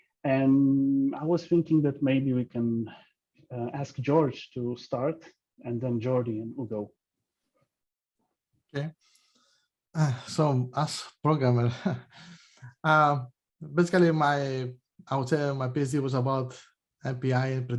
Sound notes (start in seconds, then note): 12.5 chuckles